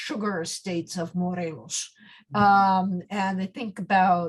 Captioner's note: speaks in foreign language